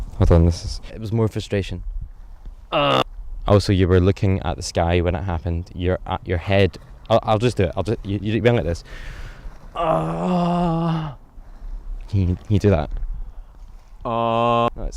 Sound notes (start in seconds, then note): 9.7 pained outcry